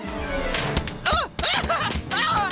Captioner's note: yells